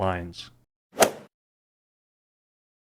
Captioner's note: swoosh